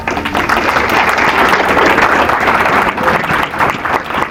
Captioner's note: applause